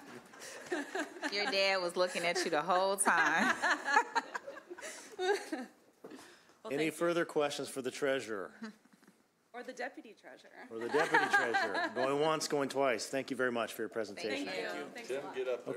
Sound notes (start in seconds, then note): 2.2 laughter; 10.8 laughter